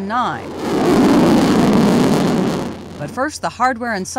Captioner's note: sounding rocket launch